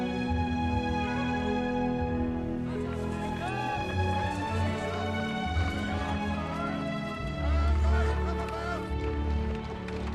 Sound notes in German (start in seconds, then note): 2.6 Geschwätz